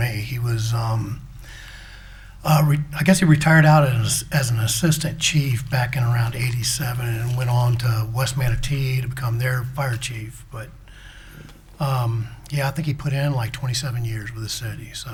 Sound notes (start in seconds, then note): none